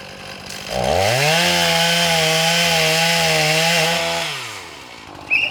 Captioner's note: chainsaw buzzing